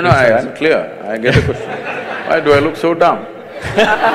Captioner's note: laughter